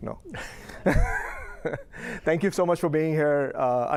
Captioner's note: laughter